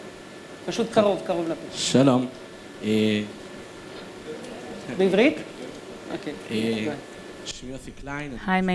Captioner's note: speaking hebrew